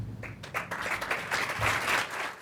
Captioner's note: applause